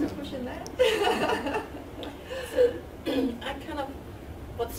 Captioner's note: laughing